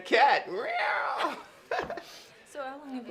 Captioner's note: laughs